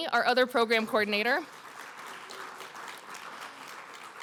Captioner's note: applause